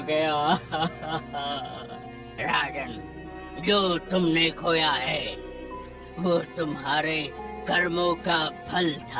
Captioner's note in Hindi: हंसी